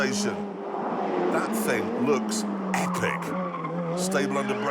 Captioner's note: tyres squealing